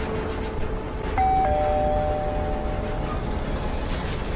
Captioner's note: doorbell rings